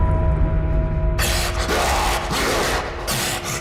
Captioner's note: inhuman growling